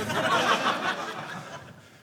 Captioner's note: audience laughing